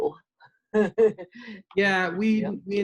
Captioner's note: giggles